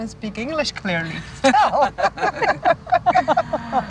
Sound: all laughing

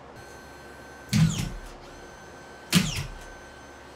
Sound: nail gun sounds

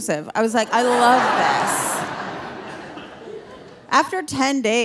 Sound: audience laughing

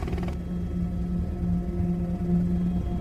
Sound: helicopter whirring

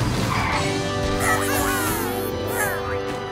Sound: squeaking

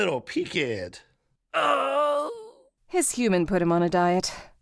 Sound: Tom groans

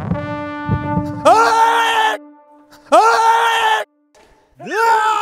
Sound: screaming with baritone voice

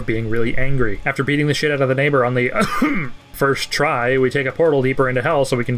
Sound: cough

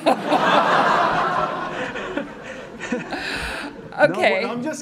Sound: audience laughing

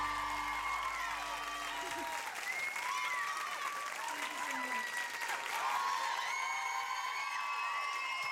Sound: cheers and applause

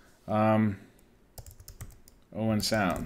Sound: keyboard clicking

